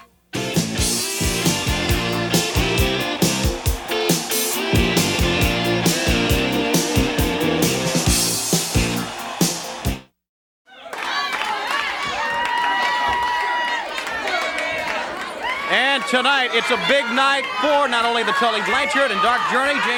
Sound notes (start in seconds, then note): 0.2 upbeat music; 3.4 audience cheering; 10.8 audience chattering and clapping